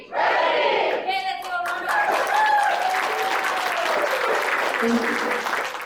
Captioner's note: audience clapping